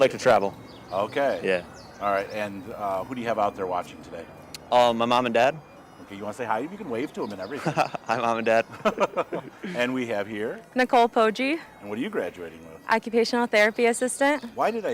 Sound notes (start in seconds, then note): 6.9 chuckling